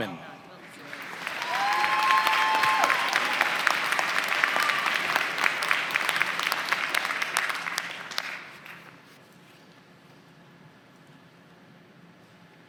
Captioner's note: applause